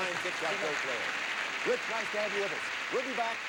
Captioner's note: audience applauding